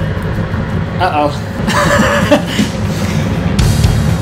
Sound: laughing; hard rock music

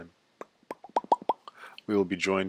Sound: short series of popping sounds

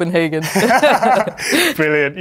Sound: both laughing

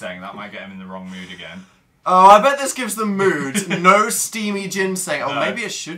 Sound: laughs

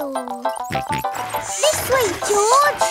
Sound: george snorts

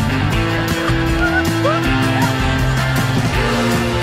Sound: squeal

